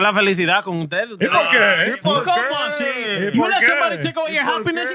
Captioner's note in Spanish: Hablando en idioma extranjero